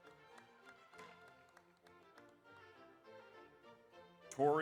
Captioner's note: audience applauds